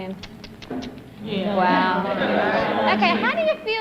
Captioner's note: laughter